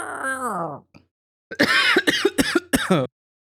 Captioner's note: screaming; coughing